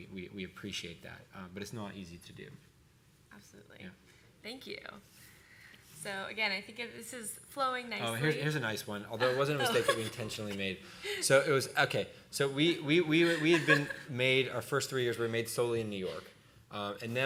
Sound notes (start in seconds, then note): 9.2 laughing